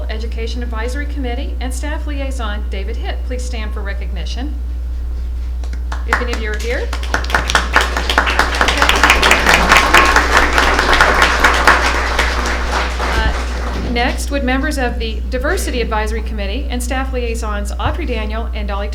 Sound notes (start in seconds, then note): 11.1 applause